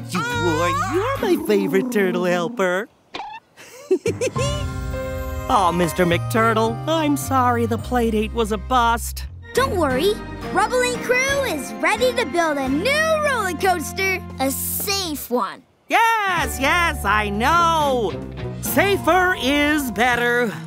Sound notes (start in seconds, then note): 3.5 chuckles